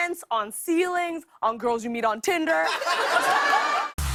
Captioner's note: laughter